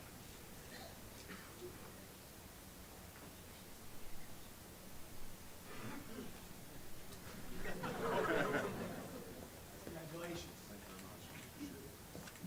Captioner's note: applause